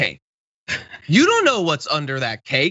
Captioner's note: laugh